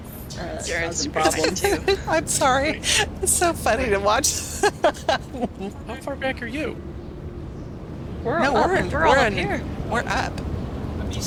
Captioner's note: laughter